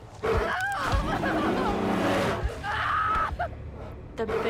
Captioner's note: screaming; bear growling